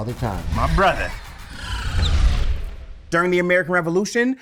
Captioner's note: electronic sounds